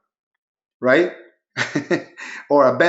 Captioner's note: chuckles